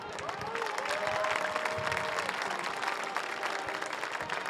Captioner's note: audience cheers